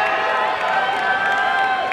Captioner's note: applause and cheering